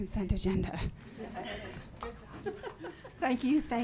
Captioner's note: audience laughing